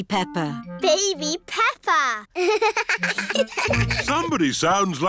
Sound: both laugh

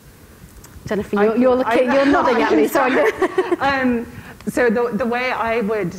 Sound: laughs

